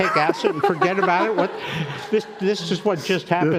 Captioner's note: crowd laughing